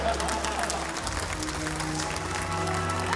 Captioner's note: cheering, applause